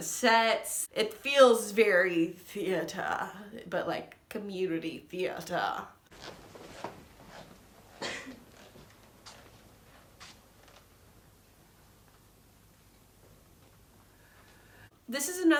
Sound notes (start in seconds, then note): 1.2 pretentious voice; 5.6 a sneeze in the background; 5.6 some scattered loud breathing